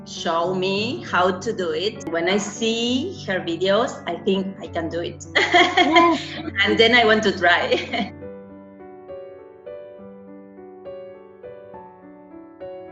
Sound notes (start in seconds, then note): 5.3 laughs; 8.2 light music